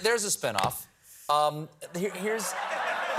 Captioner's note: laughter